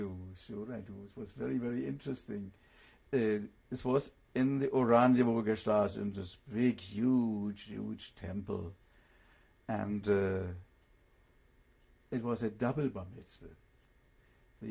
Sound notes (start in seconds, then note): 5.4 german